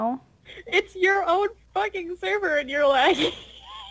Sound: laughing

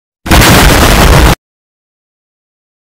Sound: boom

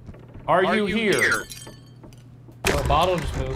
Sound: glass shatters

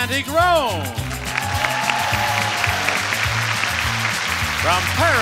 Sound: audience cheering and clapping

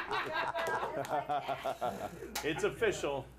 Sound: laughter

